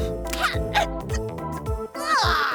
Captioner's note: Ramsey spits; stammering